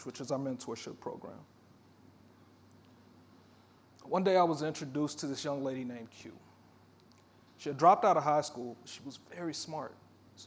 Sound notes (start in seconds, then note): none